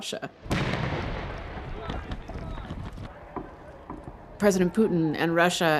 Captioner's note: explosion and gunfire